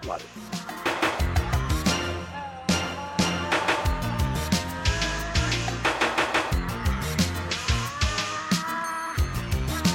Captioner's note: sound of Tasmanian devil